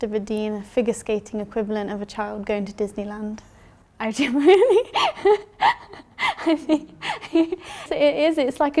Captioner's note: laughs